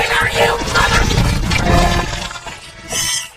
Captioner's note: growls